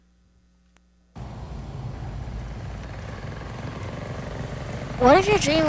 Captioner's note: motor engine rumbling